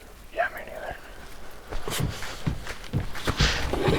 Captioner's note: laughing